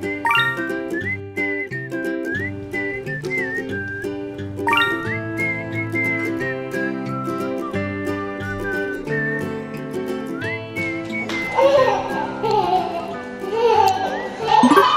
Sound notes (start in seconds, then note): 0.2 chest chimes; 4.7 couch chimes; 11.8 laughs